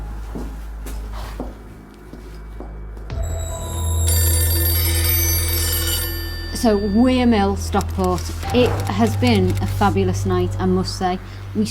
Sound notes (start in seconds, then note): 3.2 telephone ringing; 3.3 chilling music